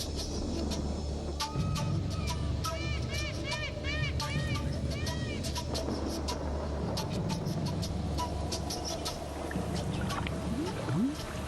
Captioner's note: trueno